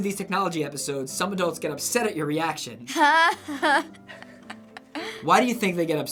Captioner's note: laughs